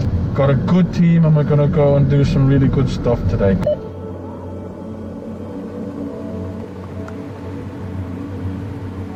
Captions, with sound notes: Got a good team, and we're gonna go and do some really good stuff today. [radio beeps]